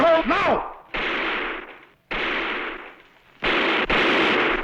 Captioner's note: gunfire